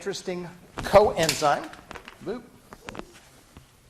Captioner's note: pointer batteries clattering